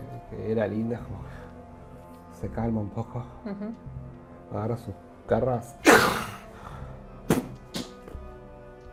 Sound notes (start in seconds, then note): 5.9 slashes